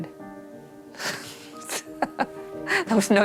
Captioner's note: chuckling